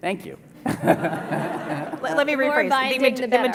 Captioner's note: laughter